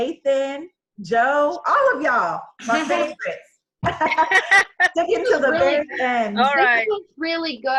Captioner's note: laugh